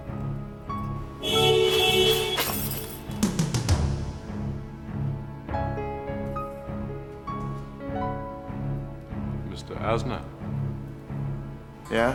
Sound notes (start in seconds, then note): 1.1 horn honking; 3.9 tense orchestral music